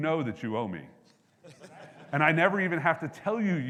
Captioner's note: audience laughs